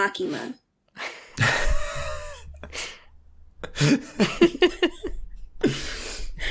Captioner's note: presenters and Ryan laughing